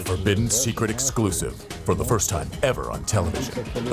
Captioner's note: lady whispering "secrets"